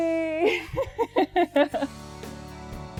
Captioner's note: laughs